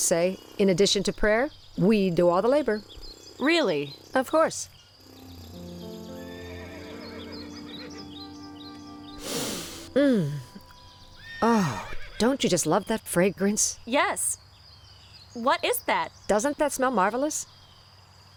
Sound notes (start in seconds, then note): 5.1 harp and flute; 9.2 deep breath